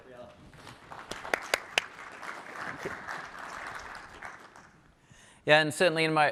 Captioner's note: applause